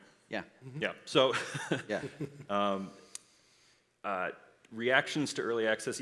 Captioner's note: laughs